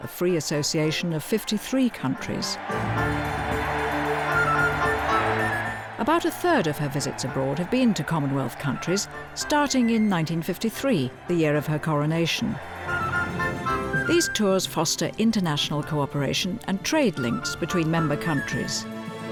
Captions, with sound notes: a free association of 53 countries. (crowd cheering) About a third of her visits abroad have been to Commonwealth countries, starting in 1953, the year of her coronation. These tours foster international cooperation and trade links between member countries.